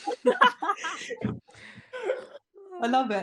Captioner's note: laughter